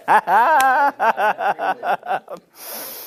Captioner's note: laughs